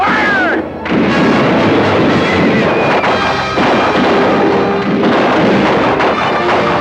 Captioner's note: dramatic orchestral music; guns fire